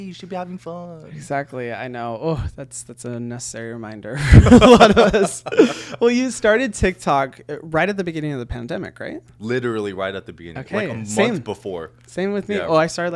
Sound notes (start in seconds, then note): 4.2 both chuckling